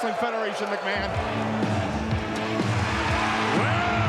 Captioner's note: audience cheering; upbeat music